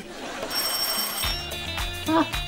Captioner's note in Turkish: Kapı zili sesi